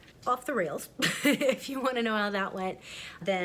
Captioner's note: chuckles